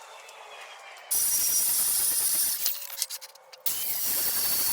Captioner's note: machine buzzing